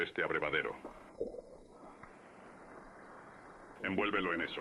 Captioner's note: water splashing